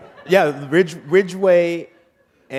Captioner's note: laughter